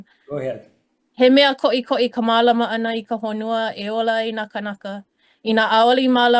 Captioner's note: speaking in Hawaiian